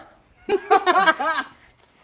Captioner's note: laughs